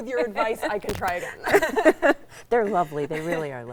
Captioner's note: both laughing